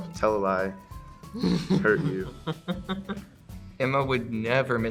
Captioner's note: laughs